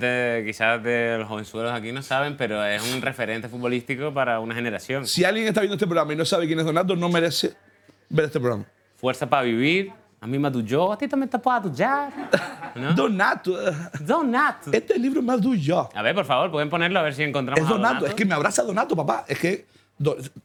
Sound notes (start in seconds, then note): 10.3 speaking in portuguese; 14.8 speaking in portuguese